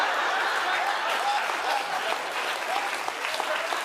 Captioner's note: cheers and applause